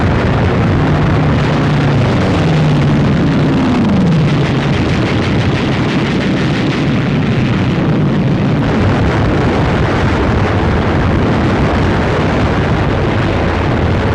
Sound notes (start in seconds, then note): 4.5 gun firing; 7.7 explosions